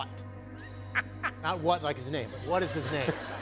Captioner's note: laughs